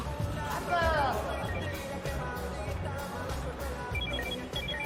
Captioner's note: telepon berdering